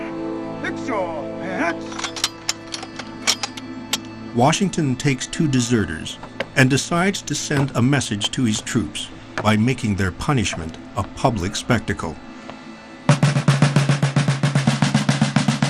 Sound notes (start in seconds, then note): 1.7 bayonets clinking; 13.2 drum rattling